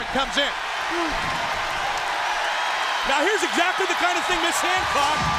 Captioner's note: crowd cheering